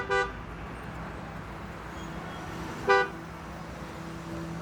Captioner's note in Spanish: claxones